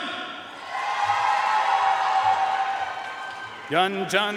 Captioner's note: audience cheering and applauding